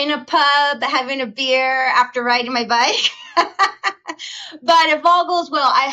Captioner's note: laughing